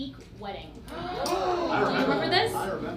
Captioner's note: gasping